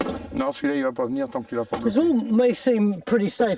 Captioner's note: speaking in foreign language